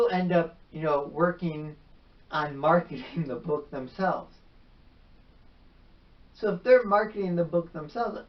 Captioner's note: chuckles